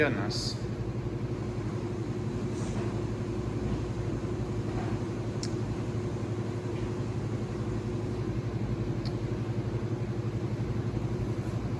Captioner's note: washers and dryers running